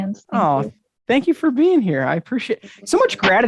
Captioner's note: exclaiming